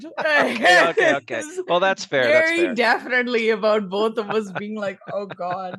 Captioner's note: aughs